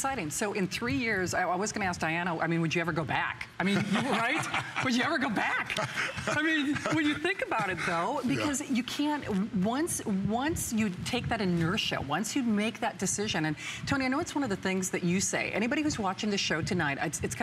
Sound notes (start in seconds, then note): 5.7 laughter